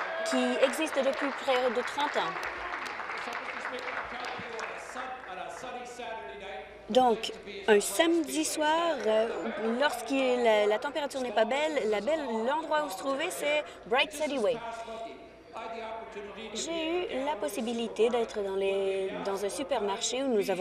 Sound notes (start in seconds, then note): 4.8 applause